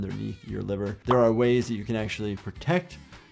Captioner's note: image popping